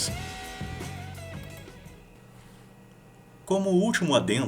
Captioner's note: syncrethic but proud silence